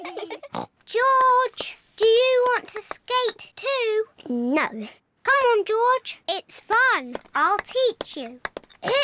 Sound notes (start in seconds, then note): 0.7 snorts; 8.8 clears throat